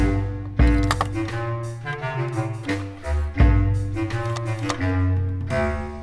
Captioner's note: buttons clicking into place